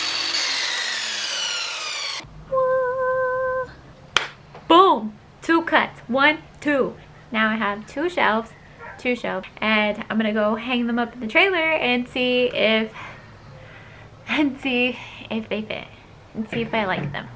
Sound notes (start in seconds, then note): 0.0 miter saw whirring; 4.1 clap